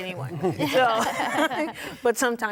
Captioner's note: laughter